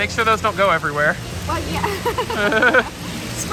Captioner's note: laughs